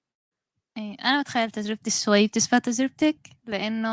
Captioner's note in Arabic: لغة أجنبية